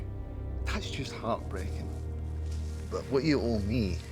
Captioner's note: scottish accent